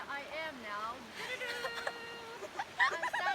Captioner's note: we are laughing